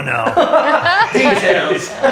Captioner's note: laughs